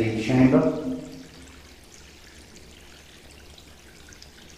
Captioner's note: water dripping